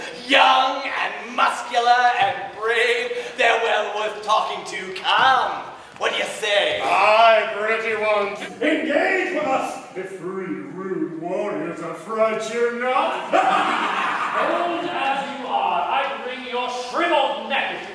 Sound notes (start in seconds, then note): 13.1 laugh